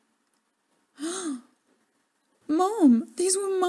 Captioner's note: gasp of horror